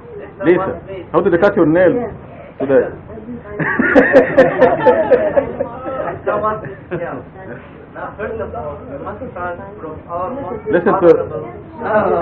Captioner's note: Gülüşmeler